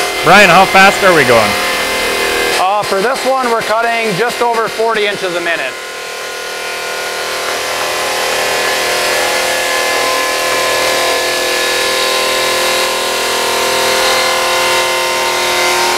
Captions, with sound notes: - Brian, how fast are we going? - For this one? We are cutting just over 40 inches a minute. [sound of machine]